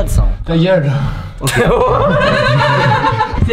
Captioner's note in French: rire